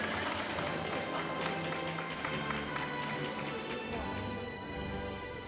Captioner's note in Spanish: aplausos de la audiencia; continúa la música majestuosa suave en el fondo